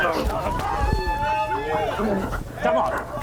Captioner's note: women screaming